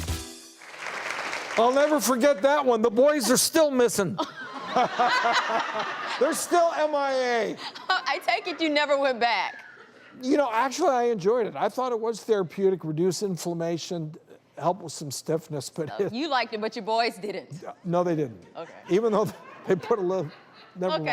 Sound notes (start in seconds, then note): 0.5 audience applauds; 4.2 audience laughing; 18.7 audience laughing